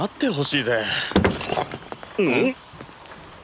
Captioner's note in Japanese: 押す音